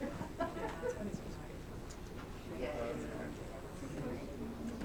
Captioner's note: background chatter